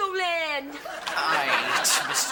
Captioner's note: audience laughing